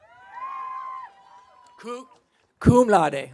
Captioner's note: audience cheering